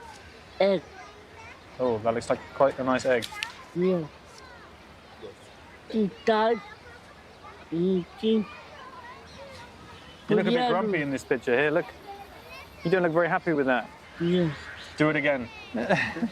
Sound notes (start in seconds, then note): 6.4 speaking in foreign language